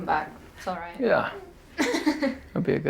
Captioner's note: laughs